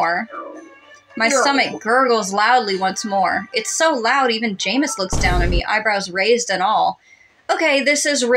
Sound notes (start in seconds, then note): 5.1 Vine Boom